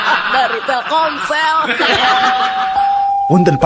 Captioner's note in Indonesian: tertawa